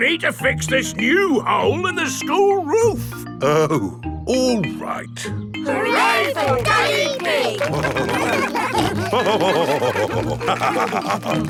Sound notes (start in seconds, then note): 8.5 all cheering; 9.6 laughing